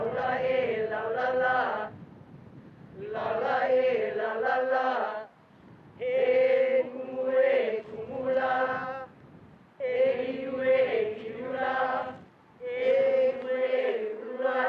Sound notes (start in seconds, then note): 0.7 group chanting in Hawaiian; 10.9 group chanting in Hawaiian